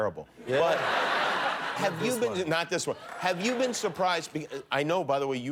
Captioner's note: laughter